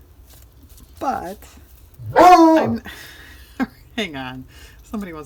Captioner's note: dog barks